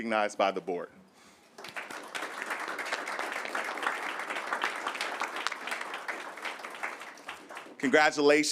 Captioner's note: applause